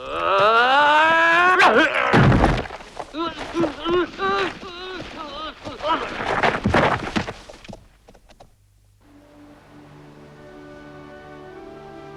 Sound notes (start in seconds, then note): 0.0 man roaring; 3.1 man groans; 3.1 man whimpering; 9.0 serene music